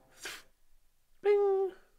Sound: spitoon sounds

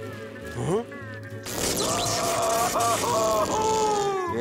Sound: screaming

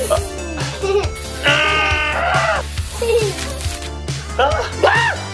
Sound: string sprays; shriek

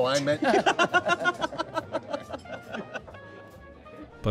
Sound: laughing

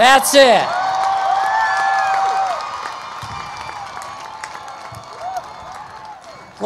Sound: cheering and Applause

